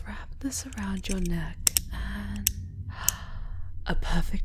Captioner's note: three sharp, tight clicks as the collar is secured